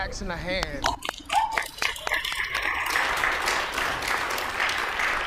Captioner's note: congregation applauds